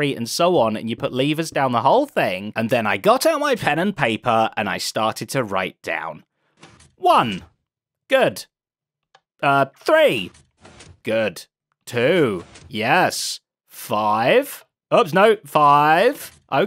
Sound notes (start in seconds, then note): none